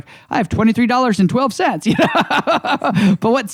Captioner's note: laughs